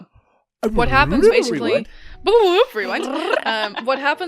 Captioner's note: rewind noises